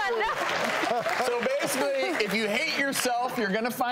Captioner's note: laughs